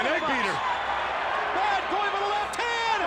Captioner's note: crowd cheering